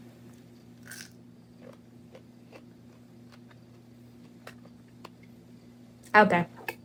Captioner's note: crunch